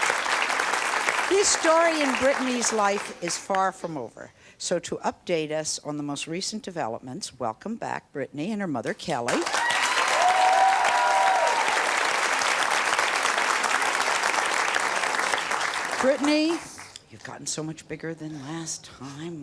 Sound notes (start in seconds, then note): 9.3 audience applause